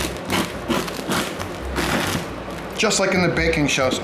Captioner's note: bread cutting